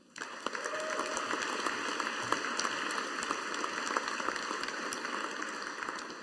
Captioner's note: audience applauding